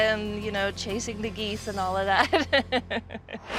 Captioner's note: laughing